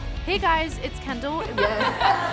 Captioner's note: laughs